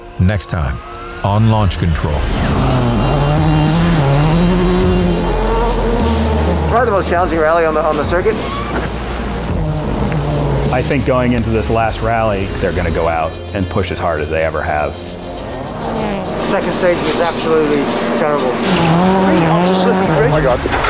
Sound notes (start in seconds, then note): 2.5 car engine revving; 9.3 car engine revving